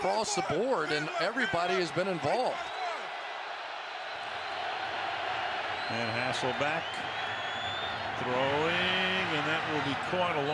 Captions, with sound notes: I mean, they went across the board and everybody has been involved. [cheers, applause] And Hasselbeck throwing, and That will